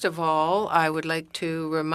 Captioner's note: speaking French